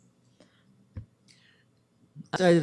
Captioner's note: audio drop